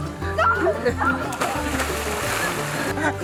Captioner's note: splashing; squeals; laughing